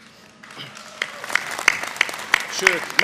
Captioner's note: applause